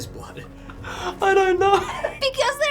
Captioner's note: while laughing